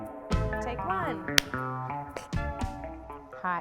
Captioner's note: clap